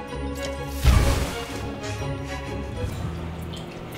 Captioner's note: explosion